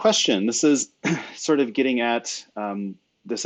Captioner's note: clears throat